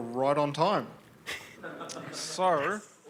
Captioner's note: laughter